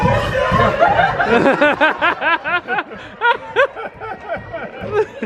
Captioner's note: laughing